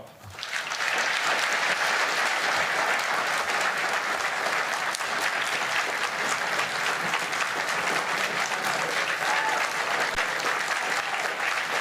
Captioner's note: applause